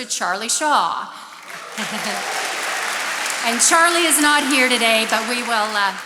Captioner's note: attendees applauding